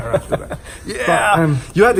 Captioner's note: chuckling